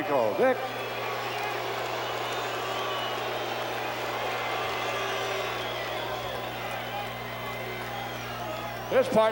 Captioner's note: applause